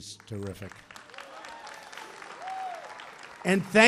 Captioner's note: applause